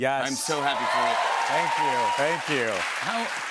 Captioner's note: cheers and applause